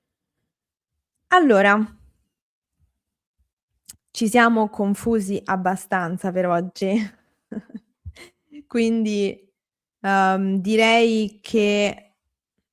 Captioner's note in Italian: risate